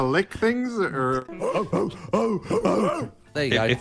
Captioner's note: barking